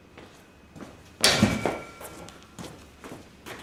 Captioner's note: metallic clang